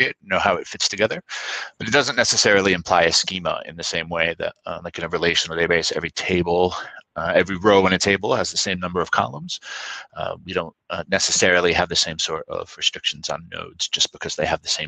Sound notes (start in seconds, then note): 4.7 speaking faintly